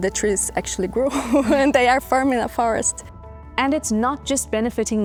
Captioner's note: laughs